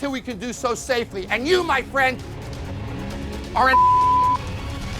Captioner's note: beep